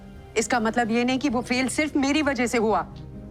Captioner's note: none